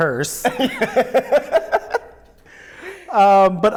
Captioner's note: laughs